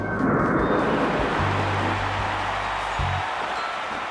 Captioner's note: crowd cheers